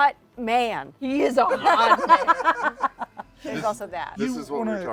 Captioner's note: laughter